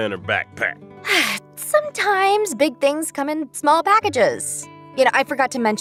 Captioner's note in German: seufz